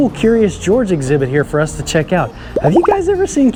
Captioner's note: monkey popping